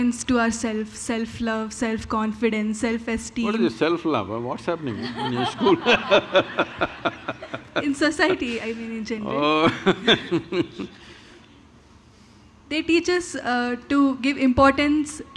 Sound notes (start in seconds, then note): 4.9 laughter; 9.3 Sadhguru Laughs